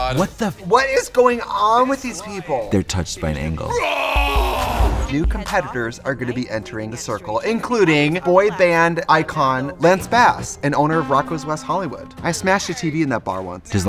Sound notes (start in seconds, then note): 3.6 man yells; 4.5 upbeat music